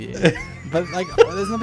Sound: laughing

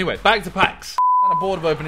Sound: beep

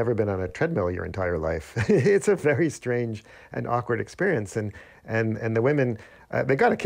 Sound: laughter

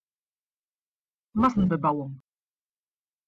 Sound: fast Pronunciation

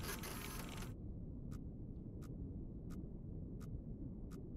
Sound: machine whirring

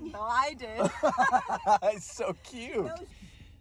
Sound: laughs

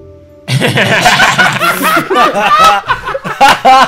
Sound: students laughs

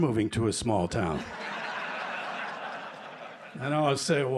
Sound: laughter

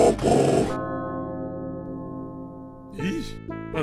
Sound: gong

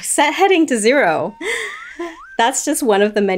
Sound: slide whistle effect

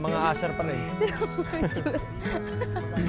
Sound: Ynah laughs

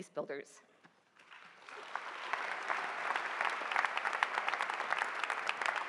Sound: applause

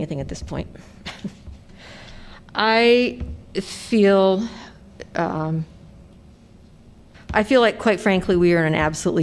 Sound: laughter

